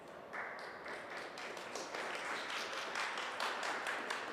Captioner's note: audience applauds